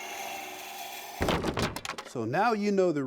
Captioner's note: wood knocking together